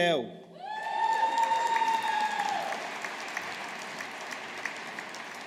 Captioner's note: audience applauding